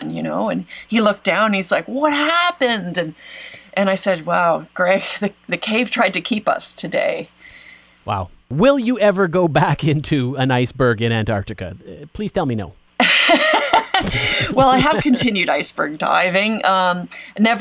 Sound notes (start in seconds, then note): 13.0 both laugh